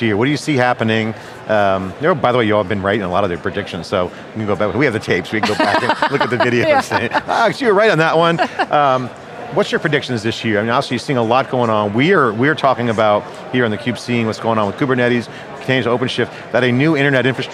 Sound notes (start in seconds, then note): 5.4 laughs